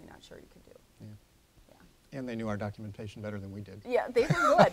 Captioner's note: laughter